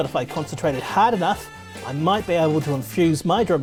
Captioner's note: urine splashing in toilet